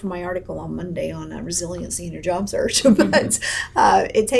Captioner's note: laughs